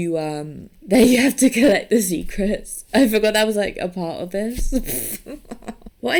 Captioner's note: laughs